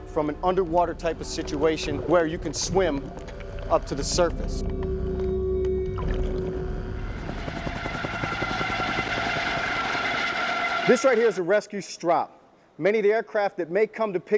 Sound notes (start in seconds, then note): 9.0 helicopter blades whirring